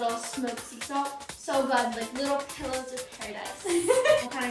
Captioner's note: laughing